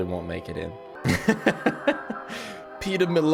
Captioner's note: laughs